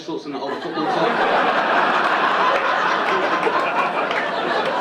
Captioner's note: audience laughing